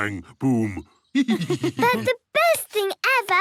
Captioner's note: laughs